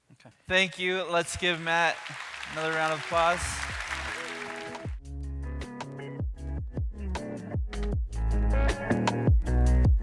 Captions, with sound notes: - Thank you, let's give Matt another round of applause. (applause) (electronic music)